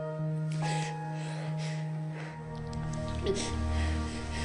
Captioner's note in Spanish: Sollozos